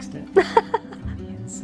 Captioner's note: laughs